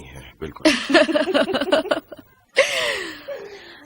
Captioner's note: laughing